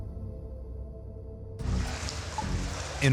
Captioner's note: water dripping and sloshing